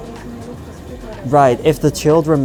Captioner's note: store owner speaking in foreign language